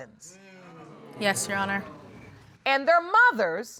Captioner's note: audience exclaiming